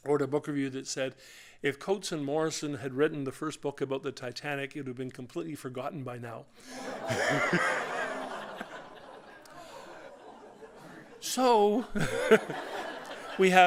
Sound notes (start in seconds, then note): 6.7 laughter; 6.8 audience ohhs; 11.7 laughter